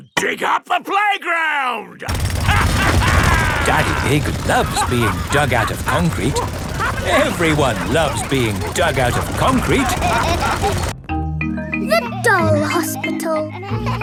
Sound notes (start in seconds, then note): 2.5 drilling and laughing; 7.3 all laughing; 13.5 kids laughing